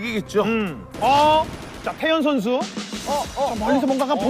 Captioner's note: firing shots